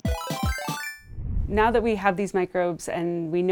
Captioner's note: solution chiming